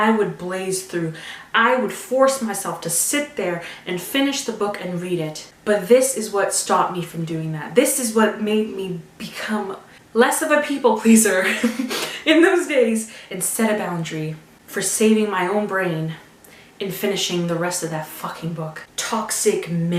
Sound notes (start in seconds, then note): 11.4 laugh